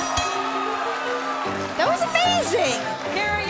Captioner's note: bell ringing; cheers & applause